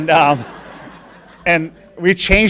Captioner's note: laughing